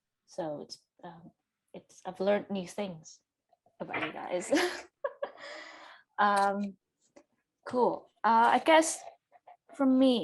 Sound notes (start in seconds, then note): 4.7 laughs